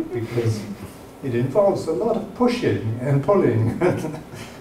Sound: chuckling

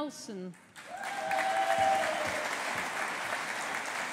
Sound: audience applauding

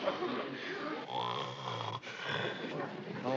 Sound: snoring

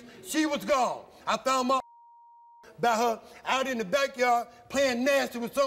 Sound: beep

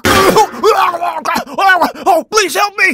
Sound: strained chocking noises

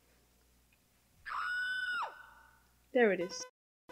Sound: woman screams in the distance

